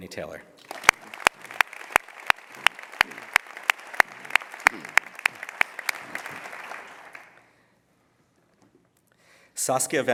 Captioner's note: applause